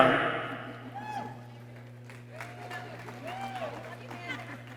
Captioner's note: people cheering